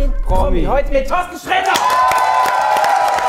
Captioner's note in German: Jubel